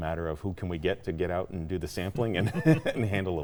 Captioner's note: laughing